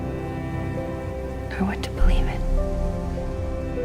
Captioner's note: voiceover